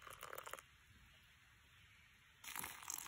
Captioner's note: pouring water